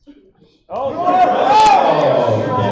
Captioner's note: audience shouting